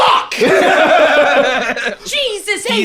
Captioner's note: all laughing